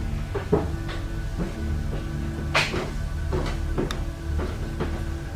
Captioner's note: footsteps on stairs